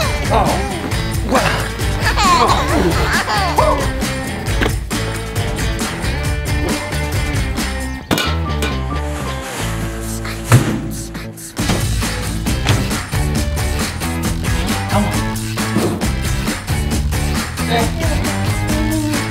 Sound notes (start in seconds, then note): 1.9 baby giggling; 4.4 diaper clangs; 4.4 upbeat music; 10.6 garbage bag thuds; 10.6 upbeat music